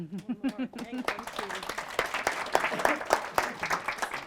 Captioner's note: applause